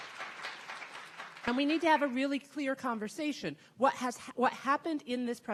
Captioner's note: audience clapping